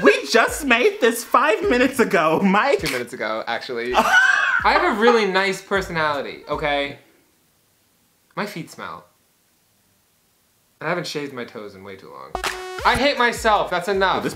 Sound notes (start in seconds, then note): 4.1 wheeze